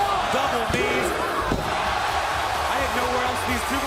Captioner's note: crowd cheering